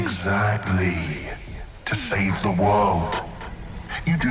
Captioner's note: groans